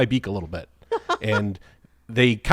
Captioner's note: laughs